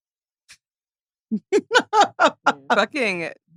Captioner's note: laughs